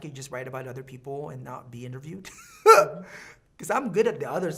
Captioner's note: laughing